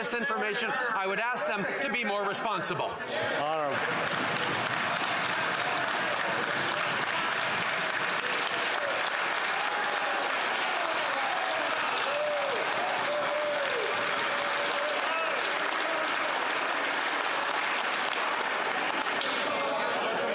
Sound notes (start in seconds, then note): 7.3 some Applause